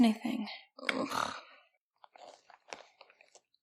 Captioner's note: sighs; Riley groans